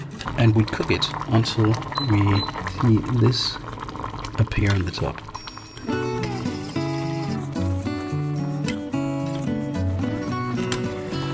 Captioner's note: foam